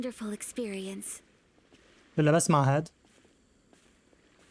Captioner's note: footsteps